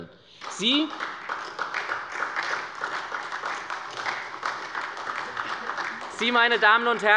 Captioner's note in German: Beifall bei der SPD